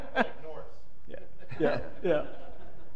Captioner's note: panelist laughing; laughter